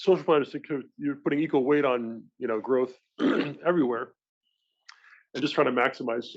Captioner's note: cough